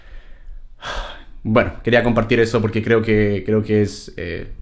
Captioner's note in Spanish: Suspiro